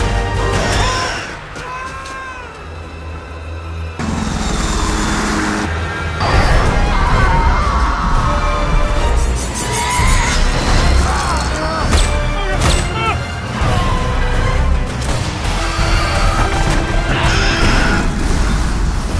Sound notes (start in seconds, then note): 0.6 screams; 5.8 screams; 9.4 dramatic music